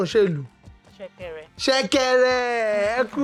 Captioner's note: rattle